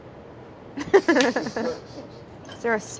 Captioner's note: laughs